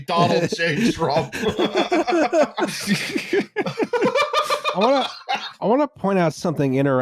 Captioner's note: laughter